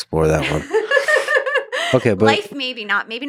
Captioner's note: laughs